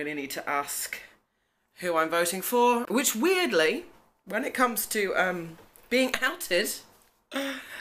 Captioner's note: sigh